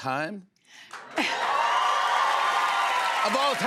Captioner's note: cheers and applause